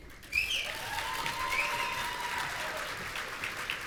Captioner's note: audience cheering